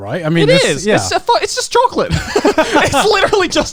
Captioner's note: laughs